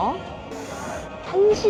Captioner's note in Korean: 쓰읍